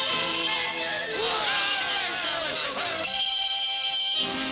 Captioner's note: shouting